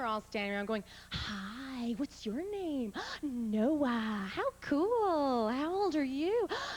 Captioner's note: soft voice